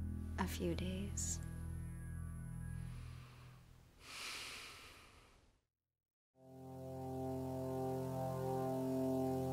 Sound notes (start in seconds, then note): 4.0 Quinn sighs disgustedly; 6.4 soft dramatic music